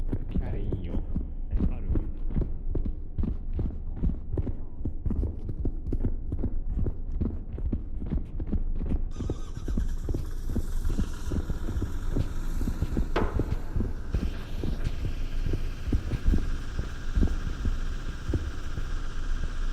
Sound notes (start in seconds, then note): 9.4 footsteps; 9.4 generator starting up